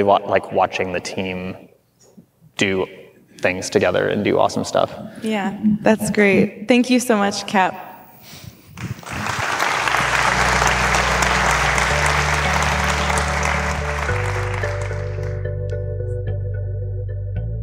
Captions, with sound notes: it's really like watching the team do things together and do awesome stuff. - Yeah. That's great. Thank you so much Cap. (audience clapping) (bouncy music)